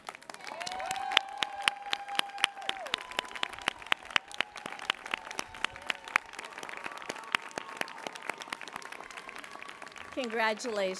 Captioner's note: applause